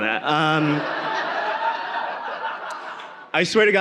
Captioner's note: audience laughing